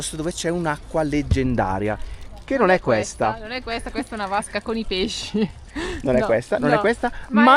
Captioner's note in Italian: risate